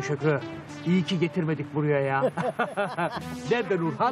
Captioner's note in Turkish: Gülme sesi